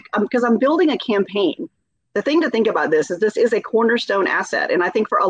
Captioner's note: none